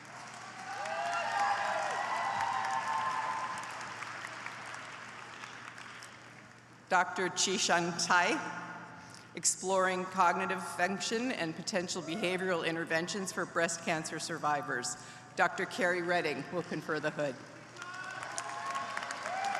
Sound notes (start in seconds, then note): 5.0 applause